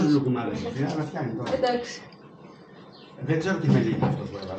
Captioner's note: speaking greek